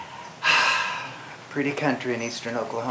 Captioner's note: sighs